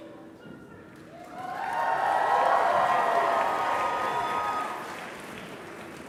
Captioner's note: applause